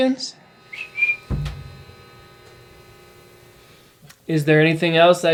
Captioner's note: whistles